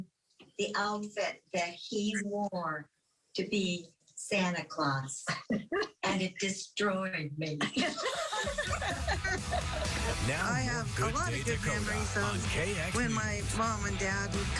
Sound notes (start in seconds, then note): 7.7 laughs